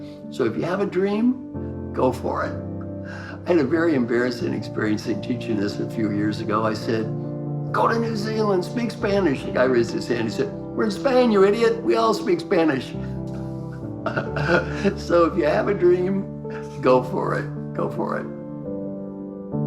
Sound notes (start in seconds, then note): 14.0 laughing